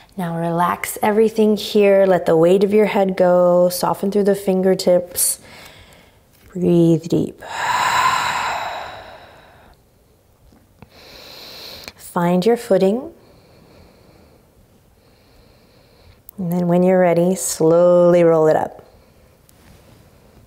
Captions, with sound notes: Now, relax everything here. Let the weight of your head go. Soften through the fingertips. Breathe deep (exhaling strongly). (inhaling deeply) Find your footing. And, then when you're ready, slowly roll it up.